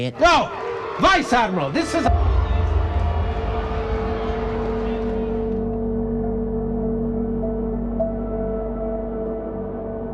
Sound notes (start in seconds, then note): 2.2 crowd booing; 3.6 lighthearted music